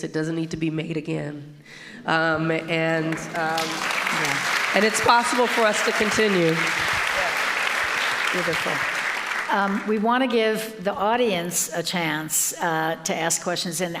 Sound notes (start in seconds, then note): 6.7 audience applauding